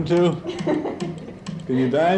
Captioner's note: laughing